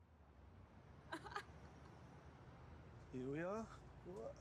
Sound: Lana laughs

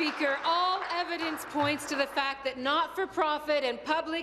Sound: applause

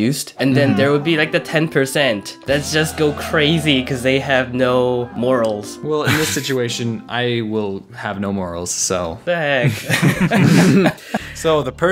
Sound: laughter

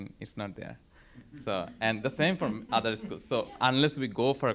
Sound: laugh

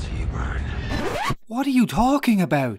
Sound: record slip

